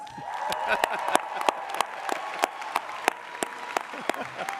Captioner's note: audience applauding